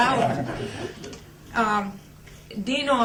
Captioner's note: laughter